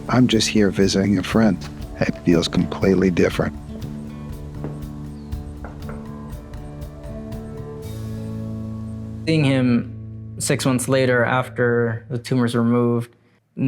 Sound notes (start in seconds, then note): 3.7 upbeat music; 5.3 door clunking